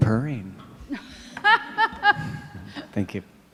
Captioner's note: laughing